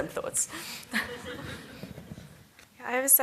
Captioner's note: laughter